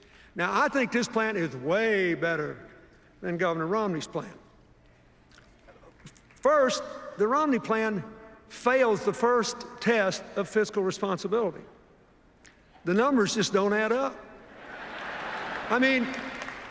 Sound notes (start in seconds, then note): 14.6 laughter, applause